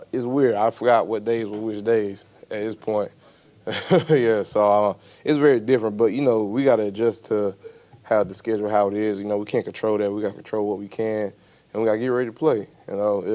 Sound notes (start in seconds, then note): 3.7 laughs